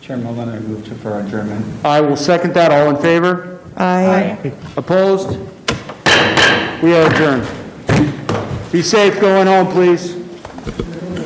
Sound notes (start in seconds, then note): 5.6 gavel banging; 10.8 group chattering